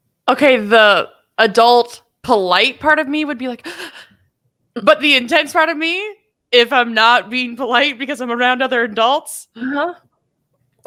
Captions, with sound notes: - Okay, the adult polite part of me would be like, (gasping) but the intense part of me, if I'm not being polite, because I'm around other adults,